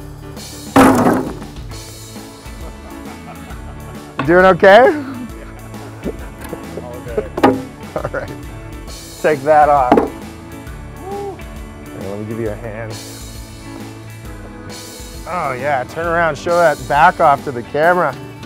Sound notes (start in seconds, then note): 0.7 brick smashes; 2.5 laughs; 7.6 chuckles